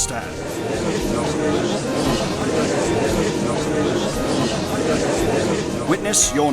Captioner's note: gallery chattering